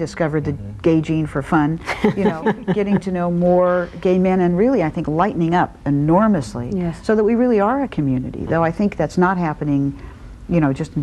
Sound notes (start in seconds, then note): 1.8 laughs